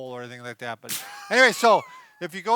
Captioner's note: laughs